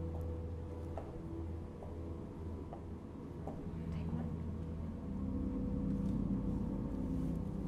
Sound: footsteps

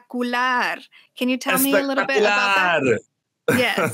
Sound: laughs

